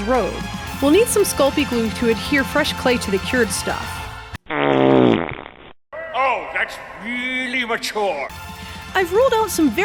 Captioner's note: fart sound